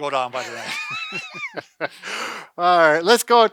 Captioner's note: both laughing